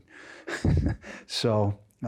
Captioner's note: laughs